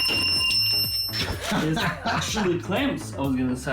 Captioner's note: laughter